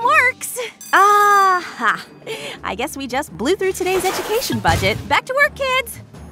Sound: bell rings

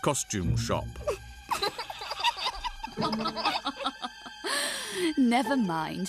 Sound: giggling; chuckling

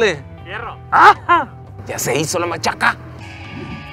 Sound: screams in excitement

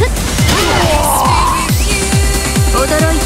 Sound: critted scream

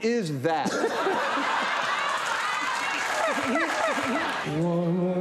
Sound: crowd laughing

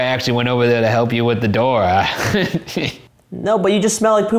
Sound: laughs

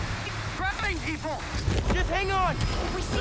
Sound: static

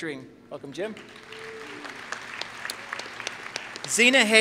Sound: applause

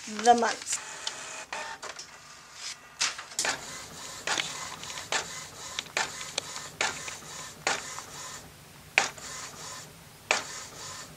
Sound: printer goes off

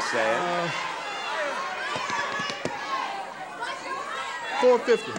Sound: audience shouting

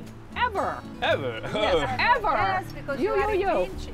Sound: laughs

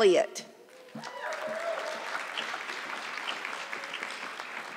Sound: audience clapping

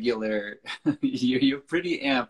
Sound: laughs

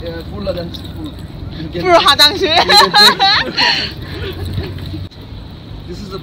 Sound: laugh

